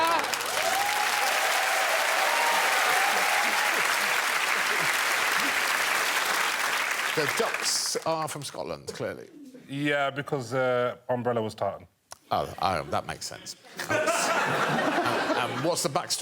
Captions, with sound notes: Duck for dinner. [cheering and applause] The ducks are from Scotland, clearly? Yeah, because the umbrella was tartan. Oh. Oh, that makes sense.